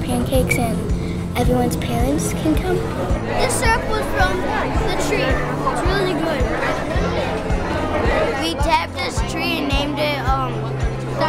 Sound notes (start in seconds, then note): 2.9 background conversations